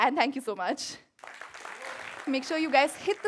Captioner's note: applause